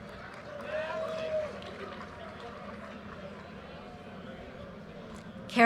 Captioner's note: audience cheers and applause